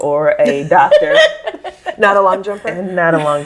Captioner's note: all laugh